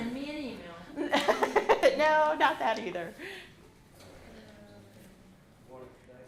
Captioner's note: laughs